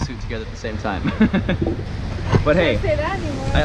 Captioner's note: laughs